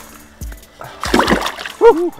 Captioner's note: splash